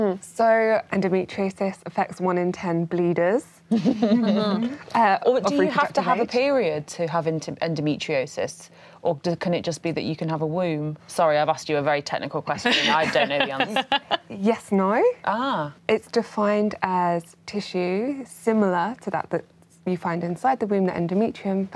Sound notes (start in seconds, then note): 3.7 laughs; 12.7 laughing